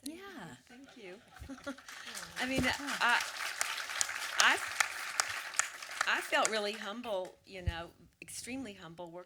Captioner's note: audience applause